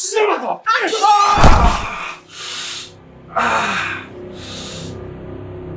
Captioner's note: Larry groaning; dark music